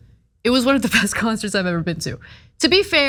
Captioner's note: laugh